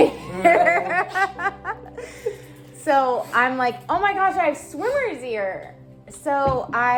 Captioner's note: laughing